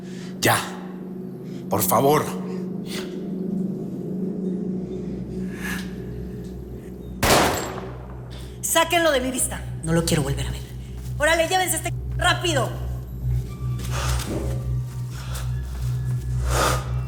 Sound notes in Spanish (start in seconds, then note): 7.2 Disparo